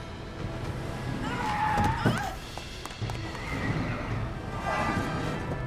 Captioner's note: tires squealing; Nikita screaming; tense dramatic music